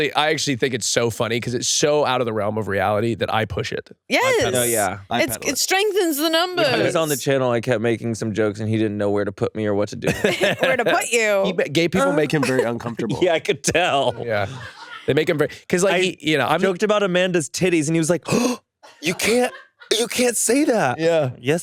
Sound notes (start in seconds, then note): 15.5 crew members laugh